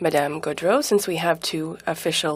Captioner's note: speaking in French